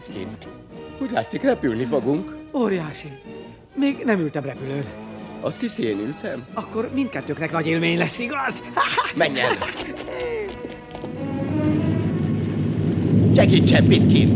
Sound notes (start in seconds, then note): 8.3 laughs